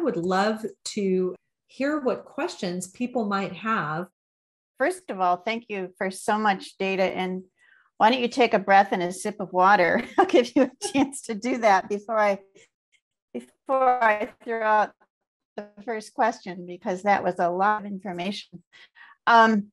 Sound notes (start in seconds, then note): 10.0 laughter